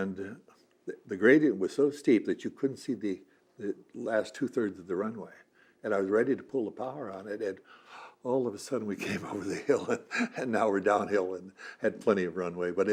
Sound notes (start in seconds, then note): 7.6 gasp; 12.7 laughs